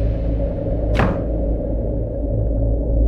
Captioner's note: Cupboard door closes